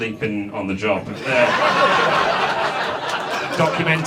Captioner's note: audience laughs